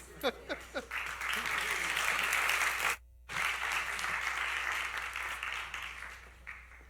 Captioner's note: applause